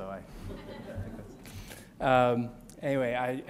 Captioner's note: audience laughs